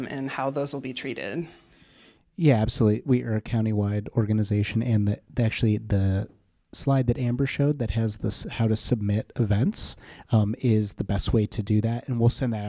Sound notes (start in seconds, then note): none